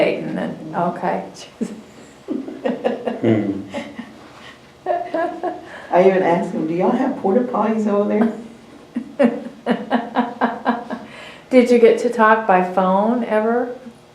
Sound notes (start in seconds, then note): 8.9 laughter